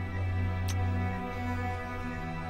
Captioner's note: Kissing sound